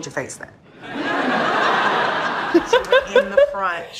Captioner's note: audience laughing